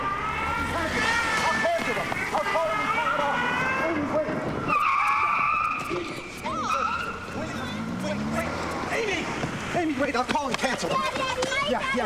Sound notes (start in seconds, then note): 4.7 tires screeching